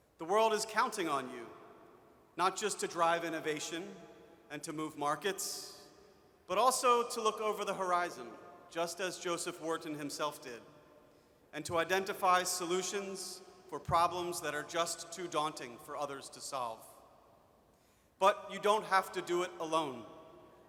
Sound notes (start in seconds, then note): none